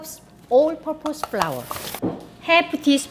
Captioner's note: tapping sound